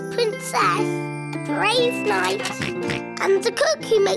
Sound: oinks

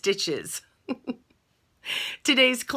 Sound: chuckles

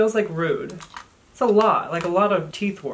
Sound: crunching sounds

